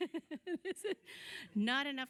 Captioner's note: laughter